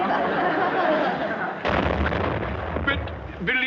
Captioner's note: students laughing